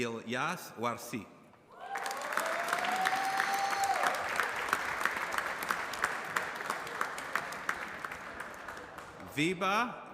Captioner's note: applause